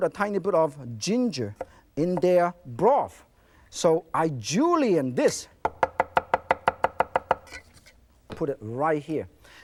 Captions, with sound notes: a tiny bit of ginger in their broth, so I julienne this. (knife tapping) Put it right here.